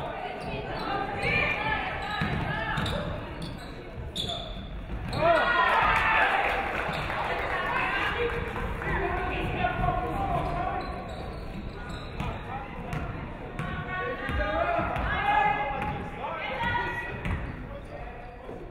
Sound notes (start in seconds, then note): 5.2 audience cheering; 5.6 audience clapping